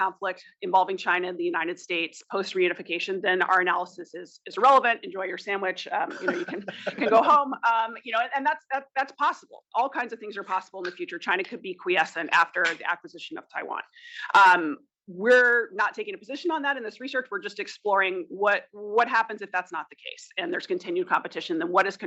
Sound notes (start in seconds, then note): 6.0 laugh